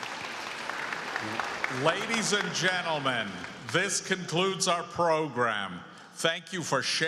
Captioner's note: applause